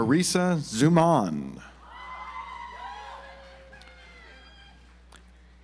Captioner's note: audience applauds